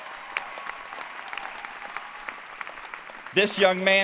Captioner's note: applause